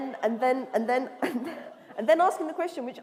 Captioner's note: laughter